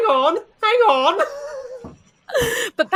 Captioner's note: laughs